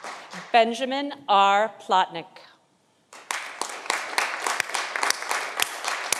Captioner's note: audience applauding